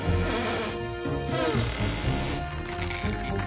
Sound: grunts of effort

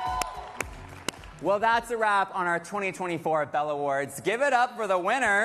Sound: cheers and applause

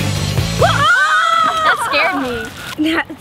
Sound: screams

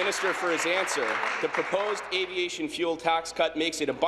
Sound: applause

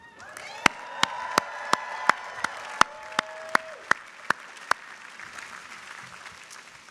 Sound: audience cheers; audience applauds

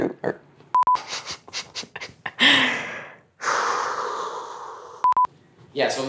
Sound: laughters

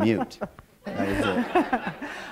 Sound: laughter

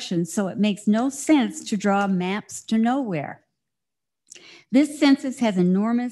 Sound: none

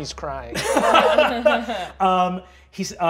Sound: laughing

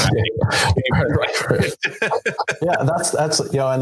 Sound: panelists laughing

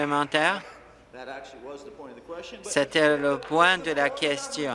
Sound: applause

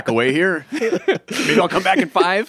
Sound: laughs

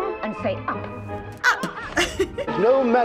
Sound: laughing

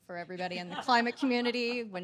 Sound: audience laughing

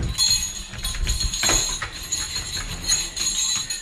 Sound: bells ringing

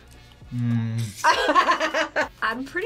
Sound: laughs

